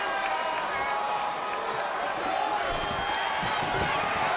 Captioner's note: audience chanting